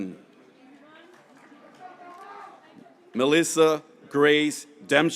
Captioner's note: graduates cheering